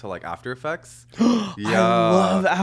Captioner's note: Hyram gasping